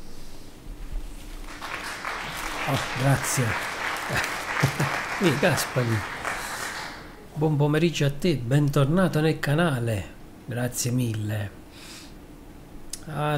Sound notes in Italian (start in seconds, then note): 4.0 Applauso